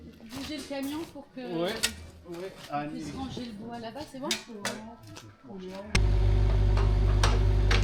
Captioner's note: speaking in foreign language; machinery whirring